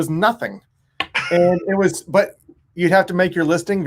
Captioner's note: laughs